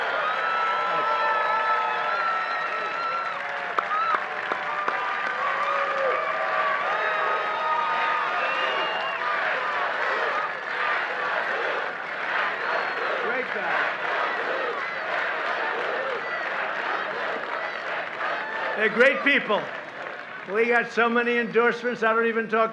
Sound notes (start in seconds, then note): 3.5 applause; 8.0 chanting